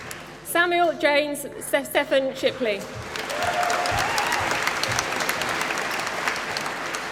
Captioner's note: applause